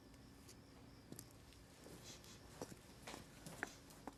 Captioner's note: sniffing